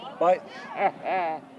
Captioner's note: laughs